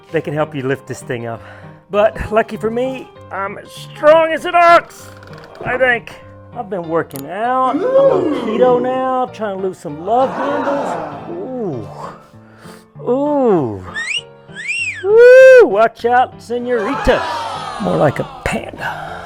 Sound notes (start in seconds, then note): 7.7 canned audience sounding impressed; 10.2 canned audience sounding impressed; 13.9 sexy whistling